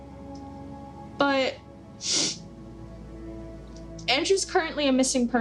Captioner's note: sniffs